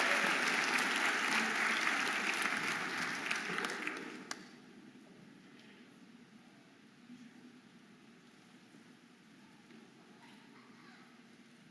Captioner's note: audience applauding and cheering